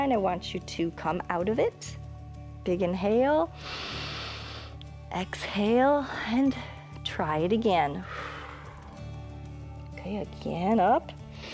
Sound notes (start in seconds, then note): 3.9 inhales; 8.0 exhales